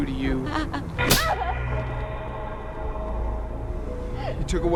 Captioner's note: gasping